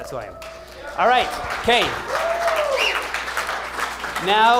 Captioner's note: applause